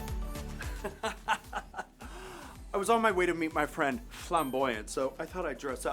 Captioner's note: upbeat music; laughs